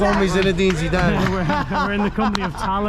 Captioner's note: laughs